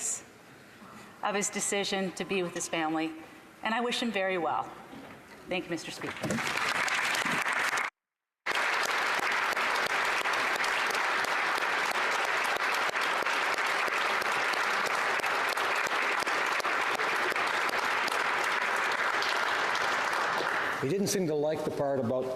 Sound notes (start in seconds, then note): 10.2 applause